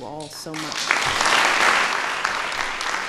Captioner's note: applause